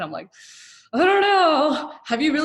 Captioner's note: sighing